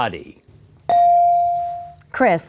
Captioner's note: bell dings